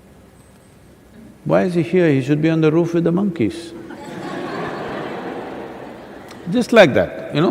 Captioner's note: laughter